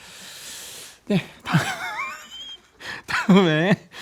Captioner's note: haha